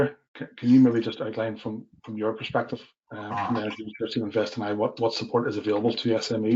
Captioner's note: audio distorts 08.05